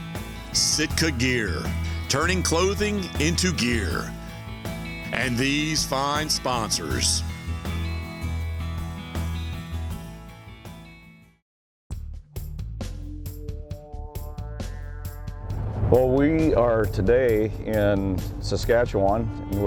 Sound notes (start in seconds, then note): none